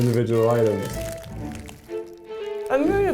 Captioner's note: rustling